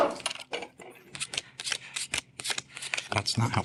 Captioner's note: cards snapping